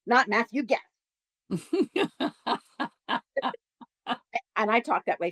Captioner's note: laughter